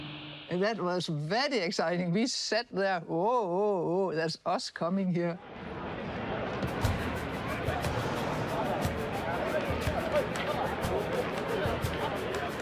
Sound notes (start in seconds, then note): 5.4 bustling chatter